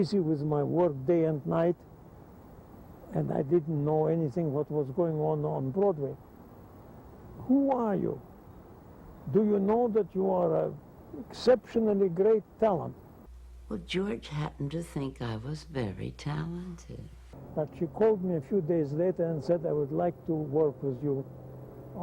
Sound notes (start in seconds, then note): none